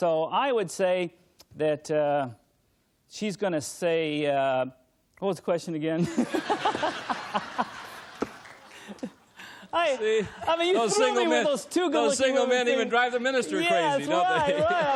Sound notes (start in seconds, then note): 6.0 laughter